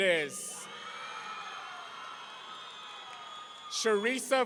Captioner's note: audience cheering